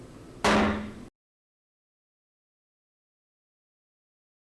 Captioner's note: gavel striking